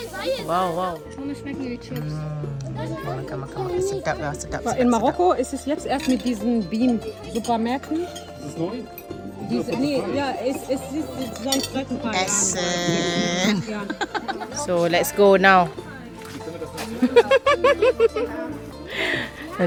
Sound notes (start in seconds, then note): 4.7 speaking German; 12.2 laugh; 17.0 laugh